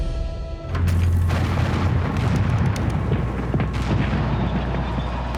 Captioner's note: cannonfire blasting